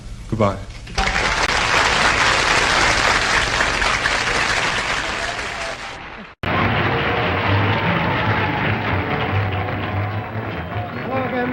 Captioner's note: applause